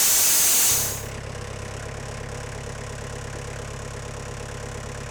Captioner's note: machinery buzzing stops